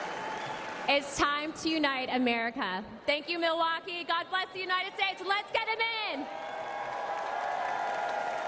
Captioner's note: applause